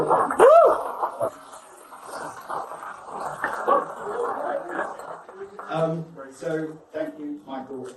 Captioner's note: guests applause and cheer